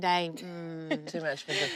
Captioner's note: laughs